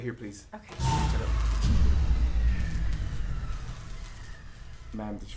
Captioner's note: dramatic, ominous music; lights buzz